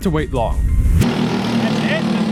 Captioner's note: parking the kart